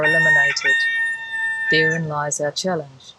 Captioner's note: rooster crowing